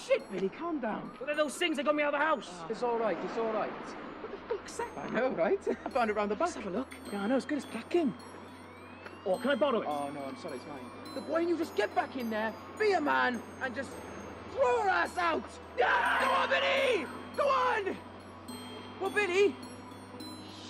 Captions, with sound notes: - Oh, shit, Billy, calm down. - And those things have got me out of the house! - It's all right, it's all right. - What the fuck's that? - A gun. I found it round the block, you know. - Let's have a look. - I'm as good as packin'. - What, can I borrow it? - Oh, no, sorry it's mine. Why don't you just get back in there, be a man, and just throw her ass out! (yelling) Come on, Billy! Go on! Oh, Billy?